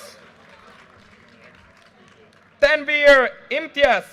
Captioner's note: audience cheers and applause